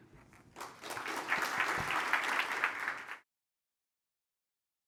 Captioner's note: applause